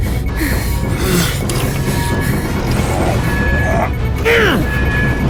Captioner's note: sub whirring